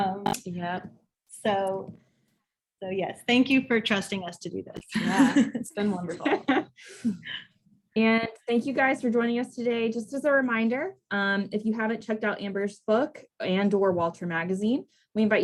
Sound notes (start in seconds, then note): 4.4 laughs